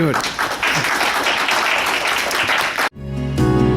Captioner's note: applause